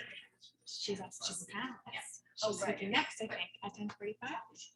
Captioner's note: people chattering indistinctly